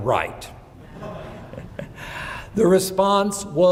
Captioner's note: laughing